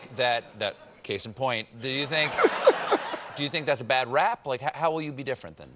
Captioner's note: laughter